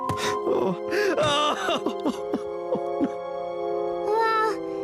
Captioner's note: Reginald sobs